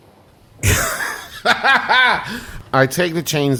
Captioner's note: Magnus laughs